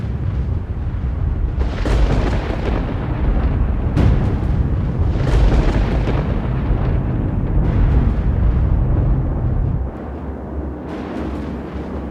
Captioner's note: thunder rolling